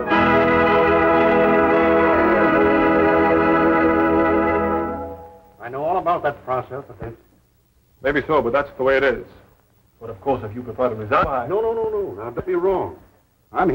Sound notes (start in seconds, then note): none